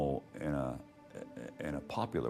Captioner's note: stammering